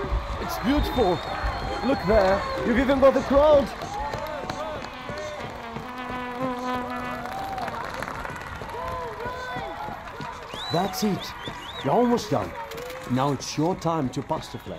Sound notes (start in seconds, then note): 3.6 noises on the crowded street, shouting, applauding, celebrating